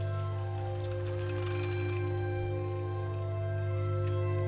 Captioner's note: bike clattering